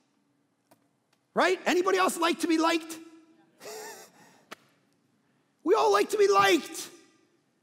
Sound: laughing

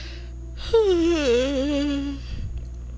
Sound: yawns

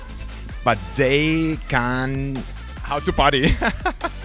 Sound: haha

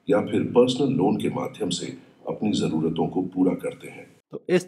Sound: AI generated voice

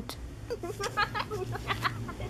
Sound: laughing

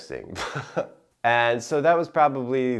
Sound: chuckling

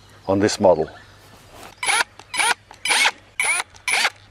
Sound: drilling

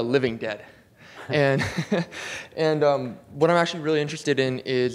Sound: chuckles

